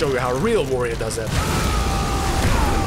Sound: a braggart’s roar

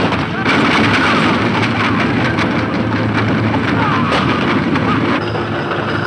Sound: gunshot; running hoof beats

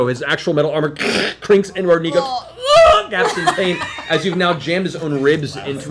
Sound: screams

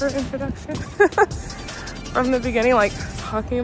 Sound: laughs

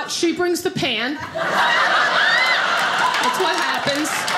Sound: audience laughing

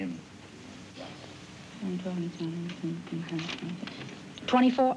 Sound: whispering

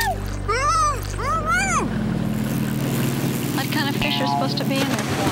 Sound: muffled grunting

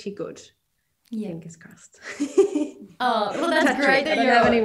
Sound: giggles

